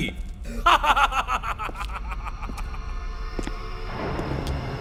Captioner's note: laughter